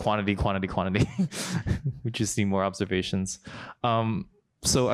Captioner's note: laughs